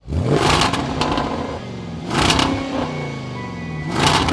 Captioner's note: engine revving